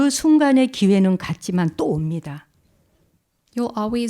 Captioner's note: speaking in Korean